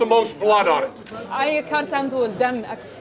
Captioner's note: non-english speech